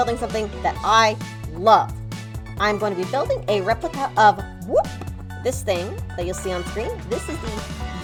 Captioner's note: whooshing sound